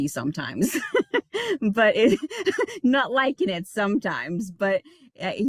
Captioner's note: laughing